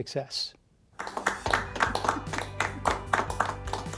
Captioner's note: applause